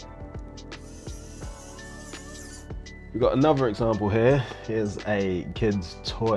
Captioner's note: screwdriver whirring